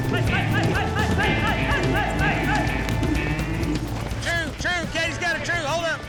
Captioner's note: hoofbeats, shouting